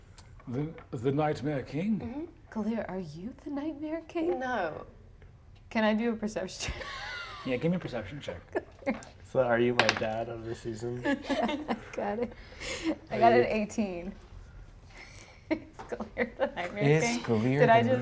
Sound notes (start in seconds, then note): 9.8 die rolls; 12.6 laughs; 15.9 laughs